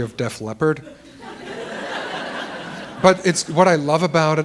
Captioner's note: laughter